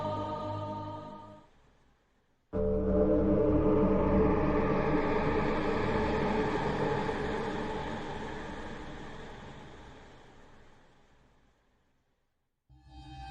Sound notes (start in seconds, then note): 3.9 eerie Sound